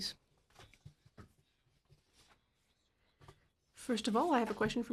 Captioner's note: speaking in French